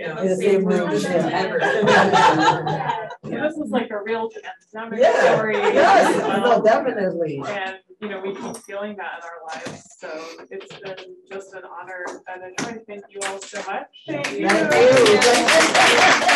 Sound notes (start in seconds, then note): 0.6 audience laughing